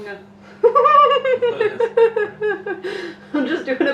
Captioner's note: starts Laughing